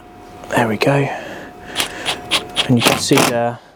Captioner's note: drill whirring